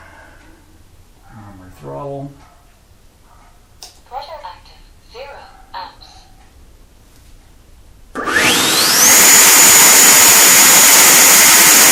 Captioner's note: engine noise